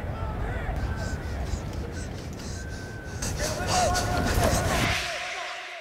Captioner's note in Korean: 거친 숨소리